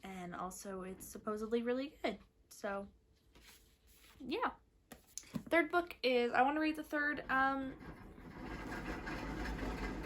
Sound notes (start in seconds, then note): 6.9 hamster wheel sounds